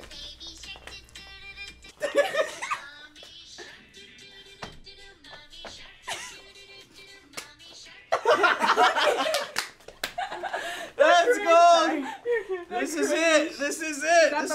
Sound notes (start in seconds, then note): 2.0 laughs; 10.2 all laugh